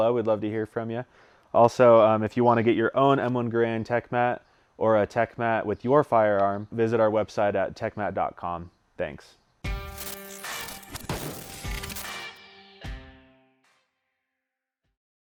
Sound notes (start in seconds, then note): 9.7 glitching; 9.7 guitar plays while gun fires